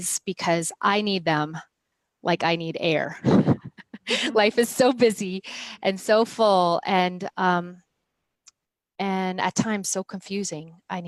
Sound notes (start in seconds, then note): 3.2 laughs